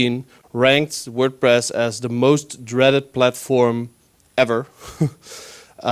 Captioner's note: laughs